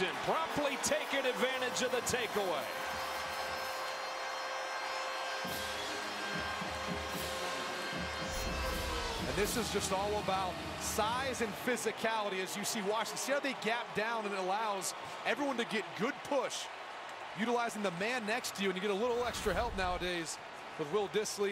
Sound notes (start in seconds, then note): 2.9 siren